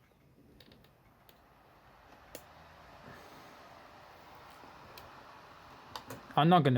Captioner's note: laptop dvd drive spinning